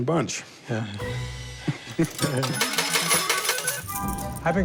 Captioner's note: both chuckle